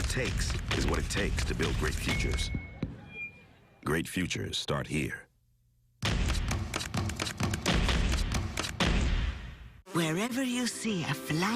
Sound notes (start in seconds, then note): 8.4 stomping; 9.6 stomping stops